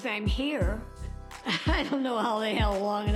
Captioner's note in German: lacht